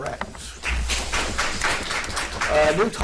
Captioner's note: audience applauds